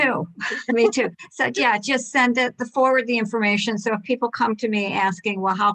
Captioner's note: laughter